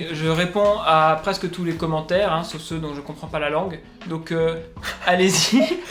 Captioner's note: laugh